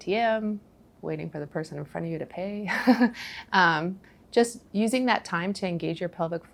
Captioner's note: giggles